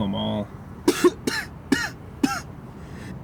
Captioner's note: Michael coughs